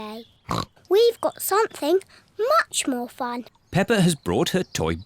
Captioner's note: snorts